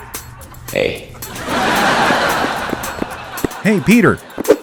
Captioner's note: laughter